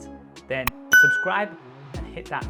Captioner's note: bell dings